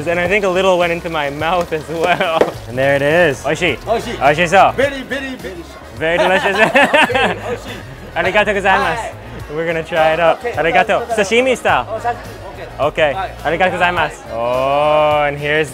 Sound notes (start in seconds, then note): 3.9 speaking in foreign language; 6.1 laughing; 9.0 speaking foreign language; 12.0 speaking foreign language; 13.9 speaking in foreign language